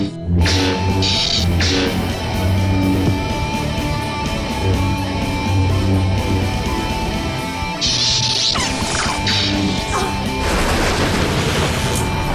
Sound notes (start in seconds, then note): 0.3 music intensifies; 7.8 sabers clash; 9.8 grunt; 10.4 crashing thunder